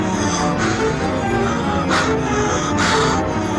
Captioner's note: panting